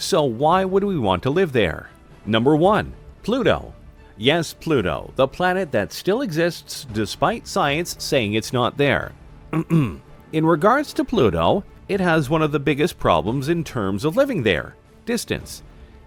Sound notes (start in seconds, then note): 9.5 ahem